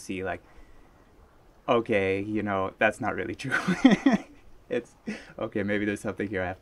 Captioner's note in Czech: smích